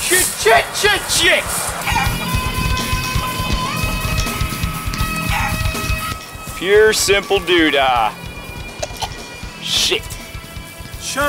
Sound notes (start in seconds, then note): 1.9 chicken clucking; 1.9 upbeat metal music; 9.2 heaving